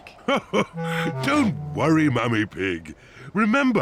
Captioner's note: laughs